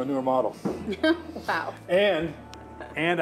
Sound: laughs

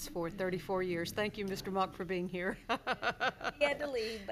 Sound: laughs

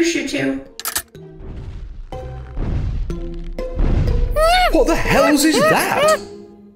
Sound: ape noises

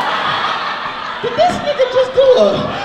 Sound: audience laughs

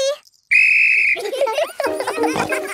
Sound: blows whistle; giggling

